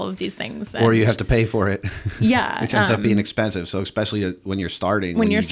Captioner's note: chuckle